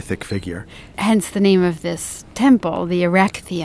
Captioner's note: voiceover